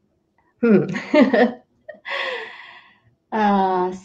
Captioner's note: chuckles